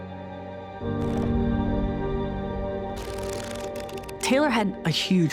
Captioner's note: soft dramatic music; photos fluttering